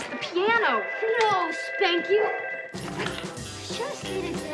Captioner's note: telephone rings